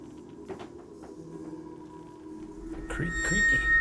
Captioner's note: wood creaking; tense ominous music